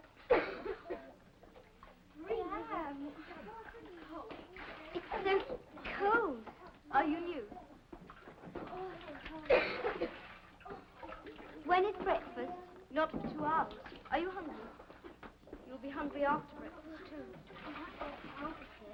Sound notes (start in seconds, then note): 0.2 coughs; 2.1 sound of girls' voices; 9.4 coughs